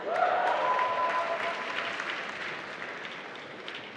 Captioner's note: applause